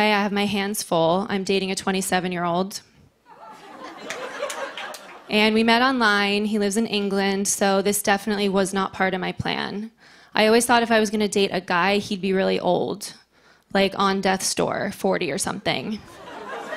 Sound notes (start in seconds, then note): 3.2 laughter